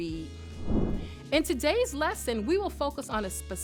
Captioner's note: air whooshes